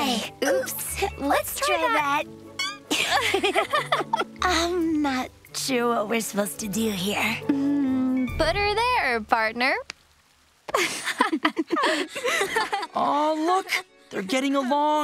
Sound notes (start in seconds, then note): 2.8 awkward laughter; 10.7 laughing